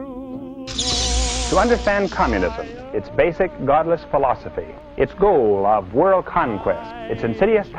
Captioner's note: television